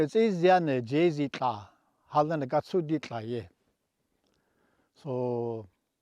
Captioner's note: speaking indigenous language